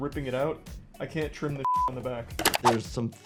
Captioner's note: beep